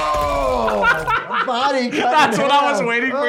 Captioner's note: laughs